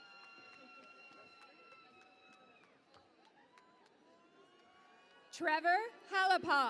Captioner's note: cheering and Applause